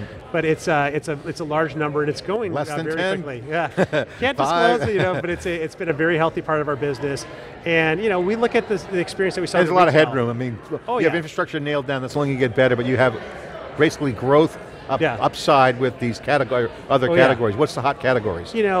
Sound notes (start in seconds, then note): 3.6 both laughing